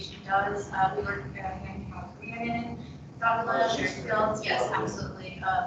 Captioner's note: air condition humming drowns out speakers